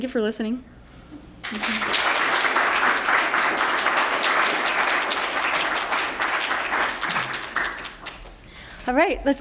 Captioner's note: applause